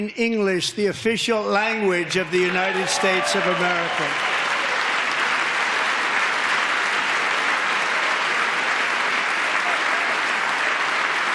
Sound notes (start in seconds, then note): 0.0 applause; 9.5 applause